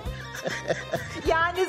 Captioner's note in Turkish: Gülme sesi